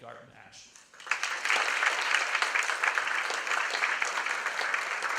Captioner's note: applause